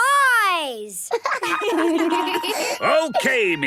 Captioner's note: laughter